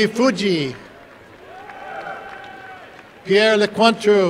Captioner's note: applause and cheering